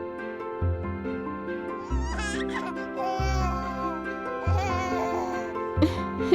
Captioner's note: baby laughing